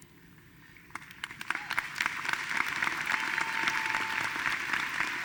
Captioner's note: audience applauding